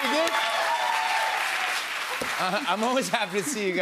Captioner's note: cheers and applause